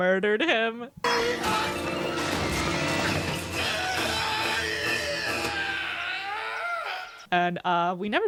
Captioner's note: echoing scream